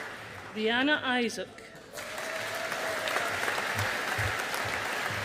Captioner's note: audience applauding